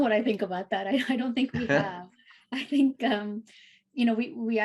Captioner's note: laughs